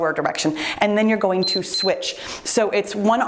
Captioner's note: timer beeps